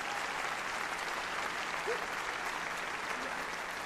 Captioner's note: applause